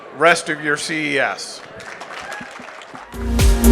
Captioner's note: applause; audio logo